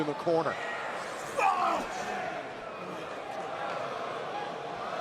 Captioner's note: crowd chatter